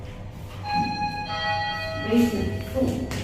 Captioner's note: chime